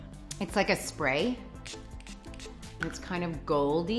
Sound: spraying

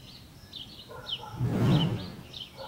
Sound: whoosh

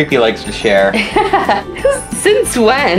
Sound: laughing

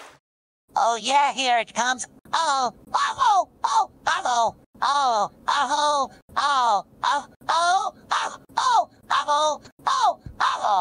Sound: A lot of moaning sounds

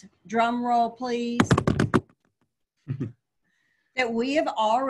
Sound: rhythmic thuds

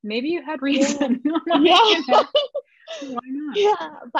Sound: laughter

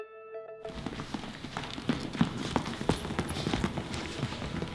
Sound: light music; feet shuffling

